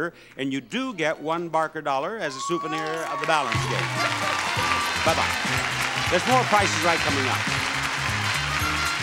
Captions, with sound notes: and you do get one Barker dollar as a souvenir of the balance game. (audience applauds) (upbeat music) Bye bye. There's more "Price is Right" coming up.